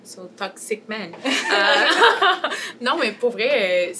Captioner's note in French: rires